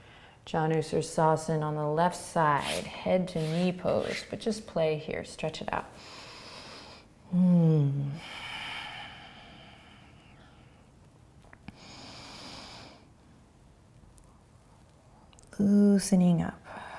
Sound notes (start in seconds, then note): 8.2 breathing